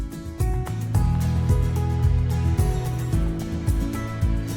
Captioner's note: car engine starts